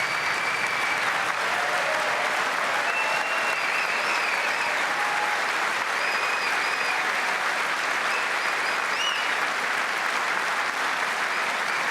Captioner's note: applause